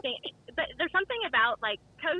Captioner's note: laughs